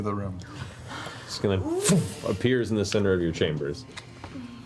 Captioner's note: poof